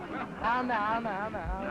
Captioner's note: crowd ambience